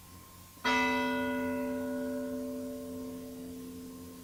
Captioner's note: bell tolling